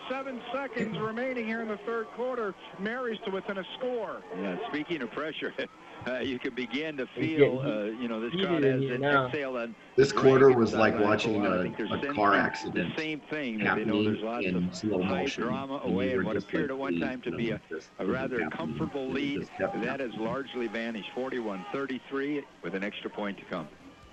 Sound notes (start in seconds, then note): 4.3 laughs